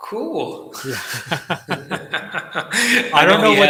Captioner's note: laughs